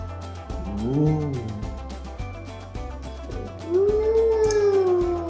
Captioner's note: oohing and aahing